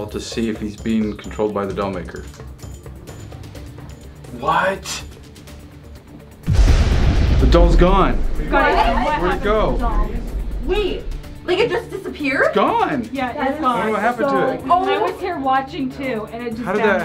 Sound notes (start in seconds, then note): 6.4 explosion; 8.4 all talking excitedly